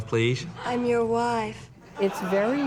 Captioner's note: laughter